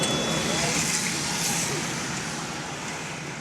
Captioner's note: traffic sound